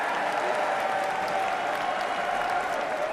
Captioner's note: cheering and applause